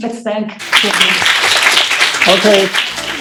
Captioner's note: applause